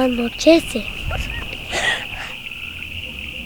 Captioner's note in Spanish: risa coqueta